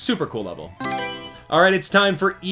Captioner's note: Mario Selection Sound